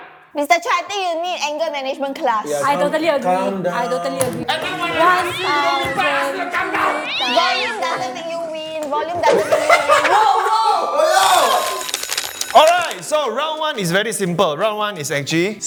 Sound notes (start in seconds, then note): 4.4 utter chaos erupting